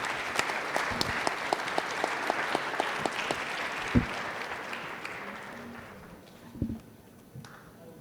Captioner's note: applause